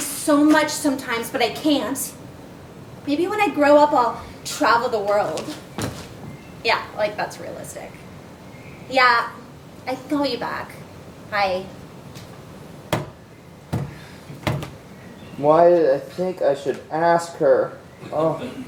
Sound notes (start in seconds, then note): 14.3 thuds